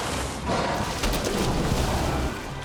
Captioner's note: sharks growling